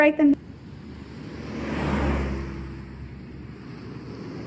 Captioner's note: engines rumbling